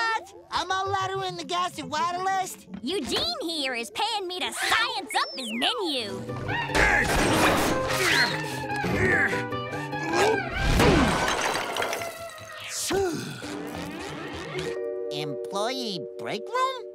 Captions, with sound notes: A maladowin-a-gas-a-whatalist? Eugene here is paying me to science up his menu. [grunting] [sighs] "Employee break room?"